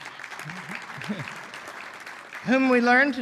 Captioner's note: applause